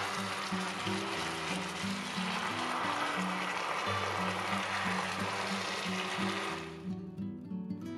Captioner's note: clap